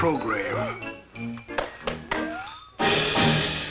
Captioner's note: whistling